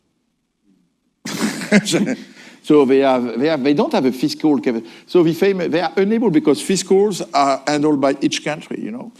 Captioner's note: laughs